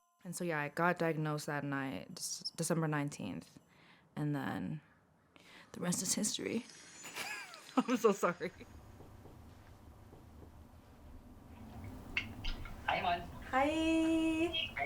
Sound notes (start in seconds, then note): 7.1 chuckles